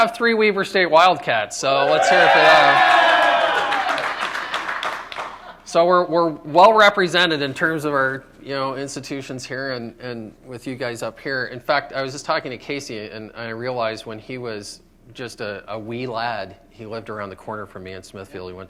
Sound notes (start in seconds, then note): 6.1 applause